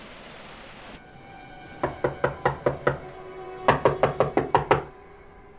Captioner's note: persistent knocking